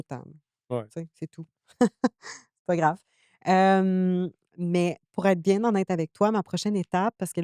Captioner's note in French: rires